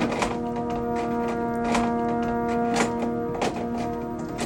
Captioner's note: VHS clanging